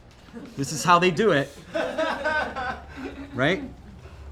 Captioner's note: laughing